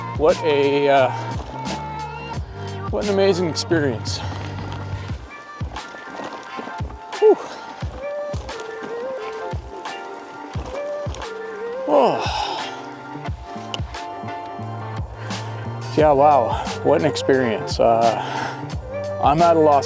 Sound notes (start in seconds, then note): 11.6 sighs